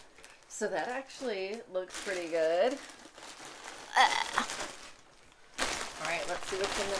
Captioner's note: bizarre blehhh noise